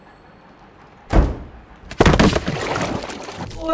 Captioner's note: thud!; splash!